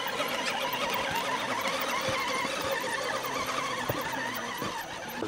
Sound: engine whining

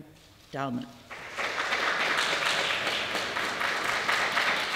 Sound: applause

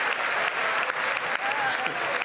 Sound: laughter; applause

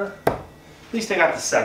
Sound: thuds

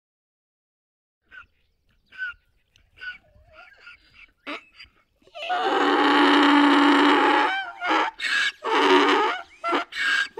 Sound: sound of donkey

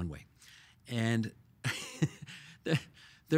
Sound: chuckling

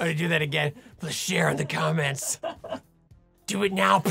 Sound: laughing

